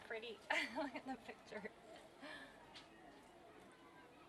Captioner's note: laughs